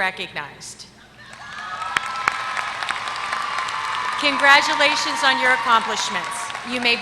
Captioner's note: applause